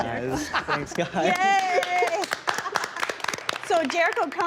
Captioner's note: all cheering